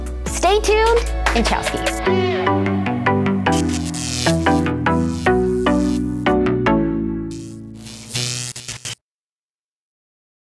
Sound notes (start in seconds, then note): 2.3 electricity crackling; 2.3 upbeat music